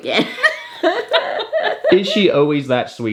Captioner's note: both laughing